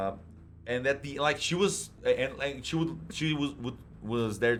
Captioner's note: stutters